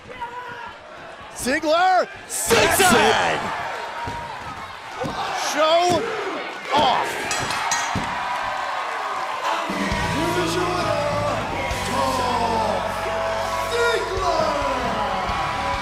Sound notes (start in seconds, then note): 7.2 bell ringing; 8.7 crowd cheering